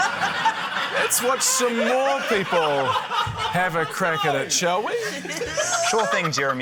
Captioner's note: laughter; exclaims, groans; laughs